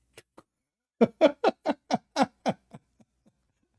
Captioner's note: Ketawa